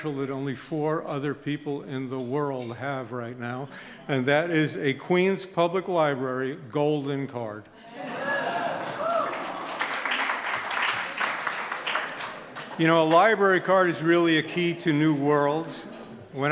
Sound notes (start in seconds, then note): 7.9 audience hollers; 8.3 audience claps